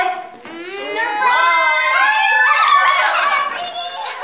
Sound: screams

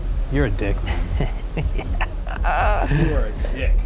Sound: laughs

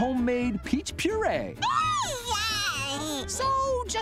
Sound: babbling

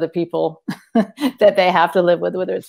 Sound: laughs

